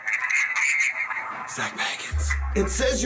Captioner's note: whispering